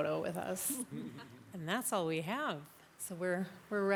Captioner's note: attendees laugh